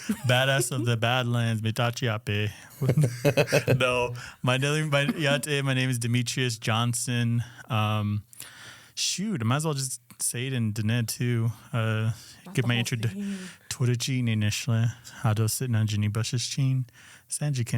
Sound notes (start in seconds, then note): 4.6 speaks Diné; 14.7 Introduces himself in Diné language